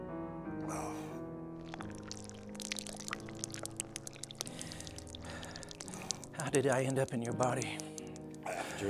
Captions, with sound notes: (blood patters) - How did I end up in your body?